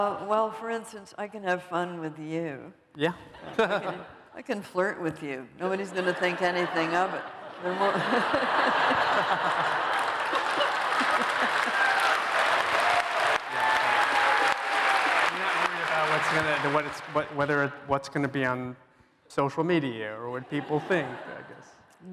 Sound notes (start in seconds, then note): 8.0 laughter; 10.4 applause